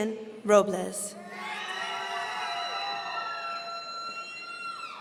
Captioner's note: audience cheering